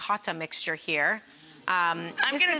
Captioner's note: audience gasps